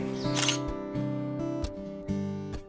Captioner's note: camera shutter sound